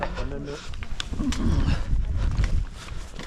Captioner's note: grunting